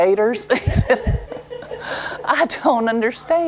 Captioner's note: laugher